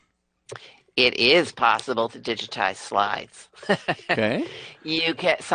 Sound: laughs

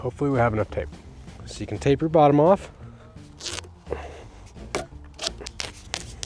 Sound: tape tearing

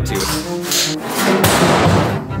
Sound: safe scraping; loud thud

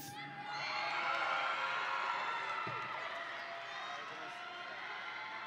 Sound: audience and graduates cheering

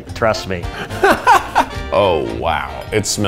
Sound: laughs

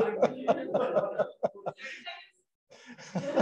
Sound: laughs

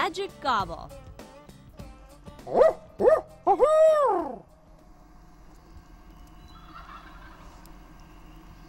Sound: turkey hunter makes birdcall; turkey gobbles

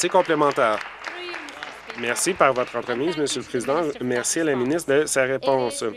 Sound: applause

